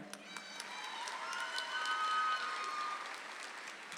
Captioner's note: audience applauds